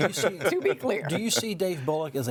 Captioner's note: overlapping chatter